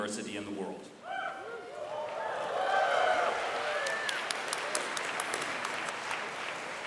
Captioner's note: whooping, cheering and clapping from audience